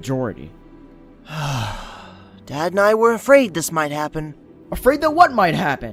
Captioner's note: sighs